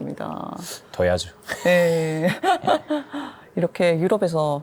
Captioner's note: laughs